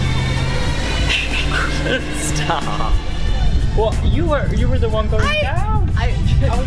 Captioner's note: laughs